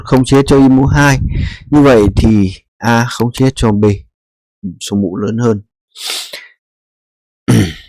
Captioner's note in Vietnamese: khịt mũi